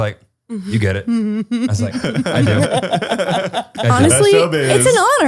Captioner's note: laughter